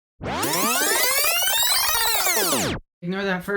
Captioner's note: rewind sound